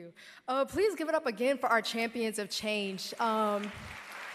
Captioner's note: applause